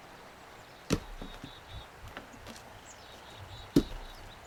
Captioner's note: birds singing